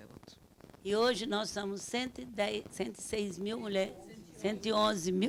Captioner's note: speaking Portuguese